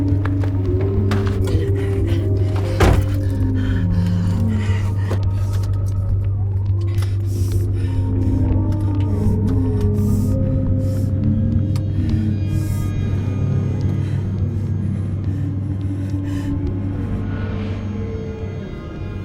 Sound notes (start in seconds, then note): 2.9 closes car door; 6.9 breathing heavily